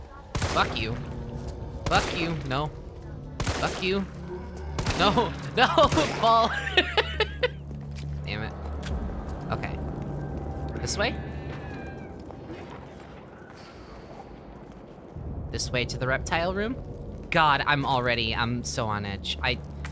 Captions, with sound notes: Fuck you Fuck you. No, fuck you. No-ho! *nervous laugh* No-ho-ho! Fall! *laughs* Damnit Okay This way? This way to the reptile room- God, I'm already- I'm so on edge I